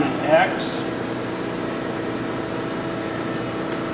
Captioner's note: machine whirring